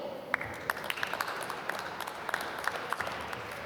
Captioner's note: applause